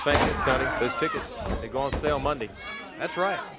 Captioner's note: crowd chatter